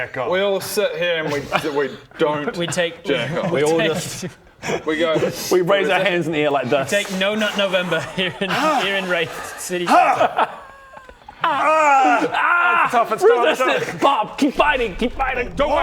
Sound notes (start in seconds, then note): 9.8 haagh; 11.3 aaaaaarg